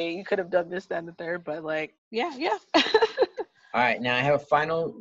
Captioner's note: laughs